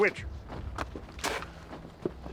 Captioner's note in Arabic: يبصق